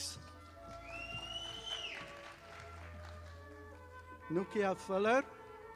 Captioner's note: audience applauding